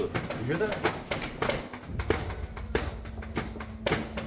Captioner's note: loud banging